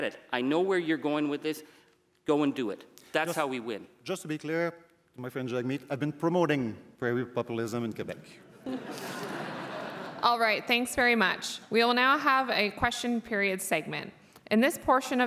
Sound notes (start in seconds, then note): 10.1 laughter